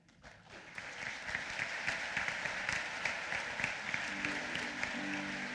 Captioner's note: applause